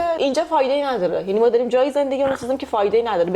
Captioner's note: clears throat